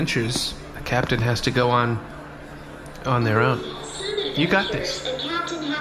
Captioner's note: quietly